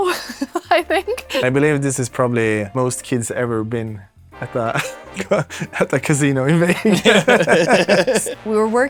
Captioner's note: laughs